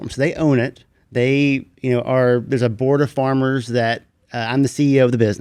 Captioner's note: none